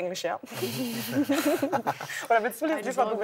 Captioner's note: laughter